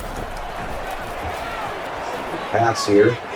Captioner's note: crowd Noises